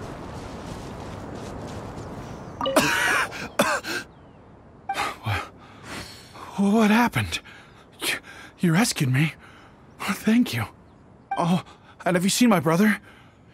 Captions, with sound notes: *coughing* Wh—What happened? ...Y—You rescued me? Thank you... Oh! And have you seen my brother?